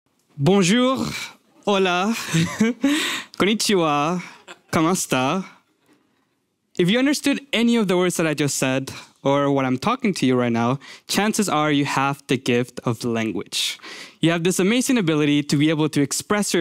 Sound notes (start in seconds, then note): 2.0 laughs